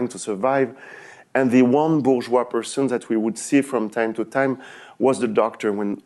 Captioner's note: french